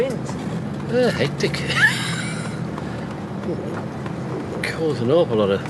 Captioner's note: laughs